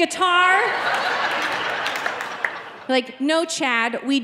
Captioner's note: audience laughing